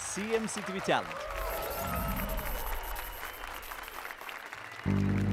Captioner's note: applause and cheers